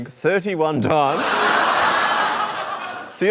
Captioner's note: laughter